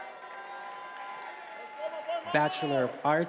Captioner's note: attendees applauding and cheering